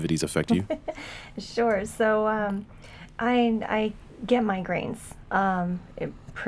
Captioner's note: laughs